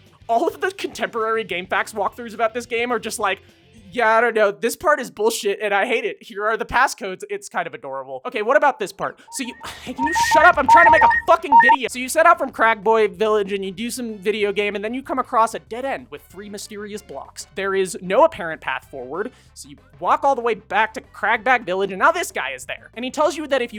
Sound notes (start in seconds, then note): 9.3 scoffs; 9.8 shouting over low health alarm